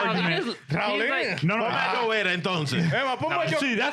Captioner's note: speaking In Foreign Language